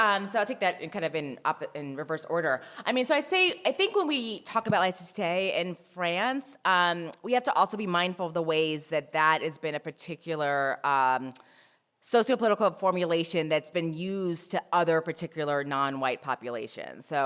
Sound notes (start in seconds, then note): 5.4 french